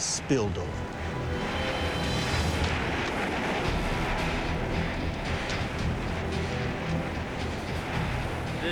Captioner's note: eruption roaring